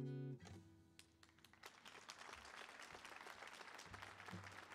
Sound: applause

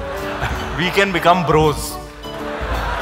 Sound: laughter; laughter

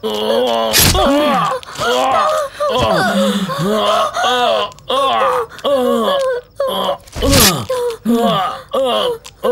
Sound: groans

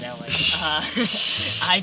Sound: laughter

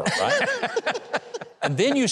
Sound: chuckle

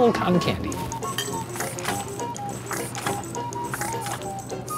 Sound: squishes

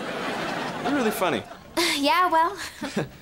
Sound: chuckles

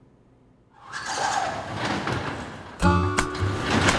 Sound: garage door sliding

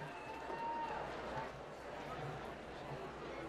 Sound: applause

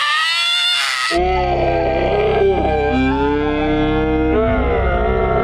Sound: screaming distorts

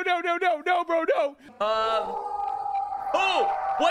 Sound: ghastly wailing

